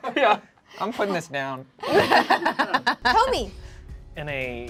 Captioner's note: laughs